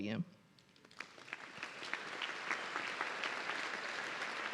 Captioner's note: audience cheering